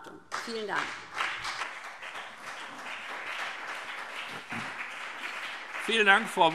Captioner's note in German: Beifall BÜNDNIS 90/DIE GRÜNEN und CDU